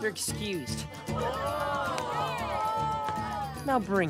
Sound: jeering

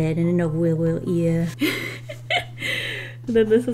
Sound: laughs

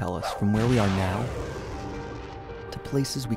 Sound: rocket blasting off

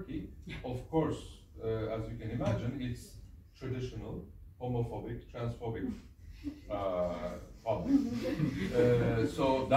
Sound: laughs

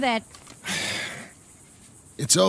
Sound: sighs

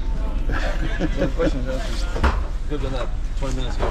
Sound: laughing; faintly speaking

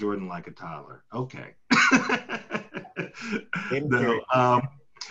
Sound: laughs

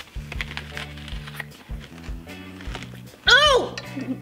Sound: onions crunch

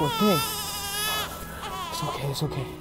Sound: baby crying

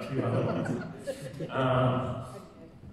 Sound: audience laughing; laughing

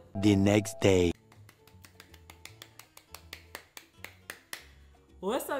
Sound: bright music continues; clapping

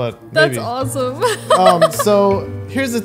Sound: laughs

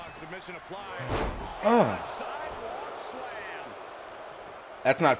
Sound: applause

